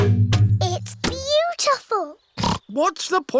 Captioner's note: oinks